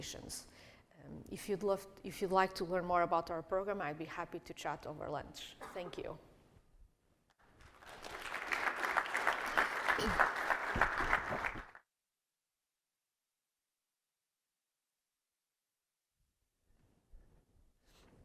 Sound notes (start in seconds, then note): 7.4 applause